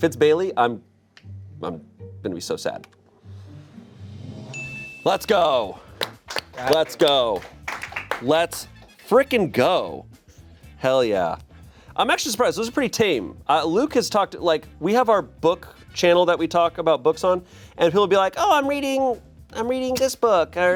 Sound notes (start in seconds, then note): 4.0 drum roll hisses; 4.5 bell chimes; 5.9 everyone applauds